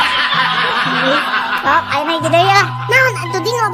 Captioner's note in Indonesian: tertawa